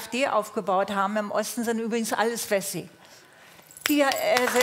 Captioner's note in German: Applaus